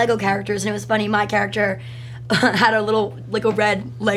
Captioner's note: laughs